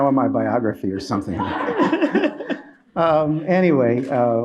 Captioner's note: laughter